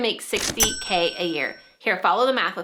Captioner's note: cash register dings